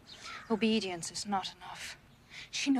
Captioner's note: none